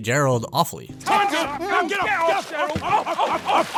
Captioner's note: seals yelling